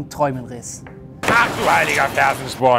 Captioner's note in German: Knall